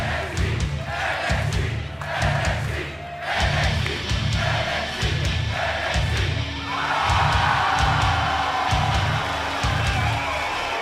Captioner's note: fans chanting